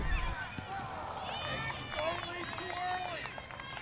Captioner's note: crowd cheering